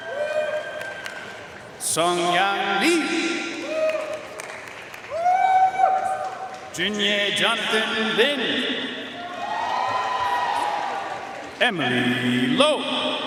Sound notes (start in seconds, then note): 0.0 audience cheering and applauding; 3.6 audience cheering and applauding; 9.2 audience cheering and applauding